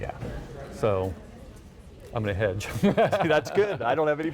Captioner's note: chuckles